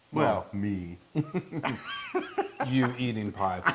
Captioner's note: laugh